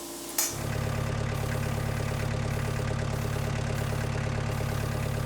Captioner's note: motor humming